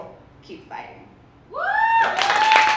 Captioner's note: audience cheers and applauds